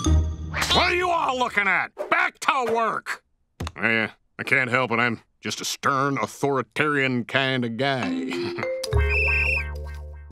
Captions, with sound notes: What're you all looking at?! Back to work! I, uh, I can't help when I'm just a stern authoritarian kind of guy. [whistling]